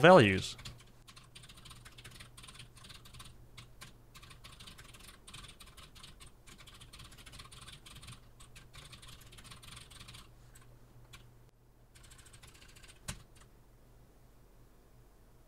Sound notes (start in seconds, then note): 4.1 typing sounds